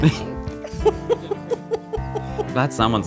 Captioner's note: laughs